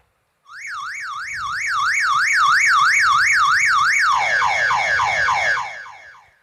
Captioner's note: sound of car alarm